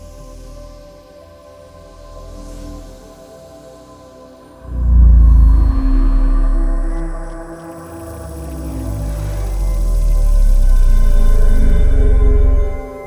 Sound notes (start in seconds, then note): 4.7 electrical pulses